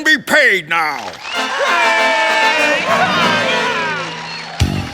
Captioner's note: audience cheering